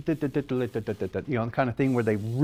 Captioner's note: mimics drums beating